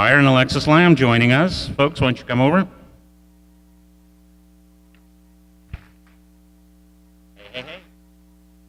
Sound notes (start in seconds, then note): 5.6 audience clapping